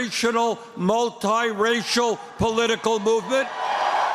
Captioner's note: cheering and applause